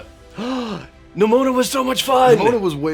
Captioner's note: gasps